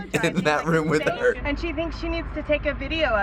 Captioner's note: chuckles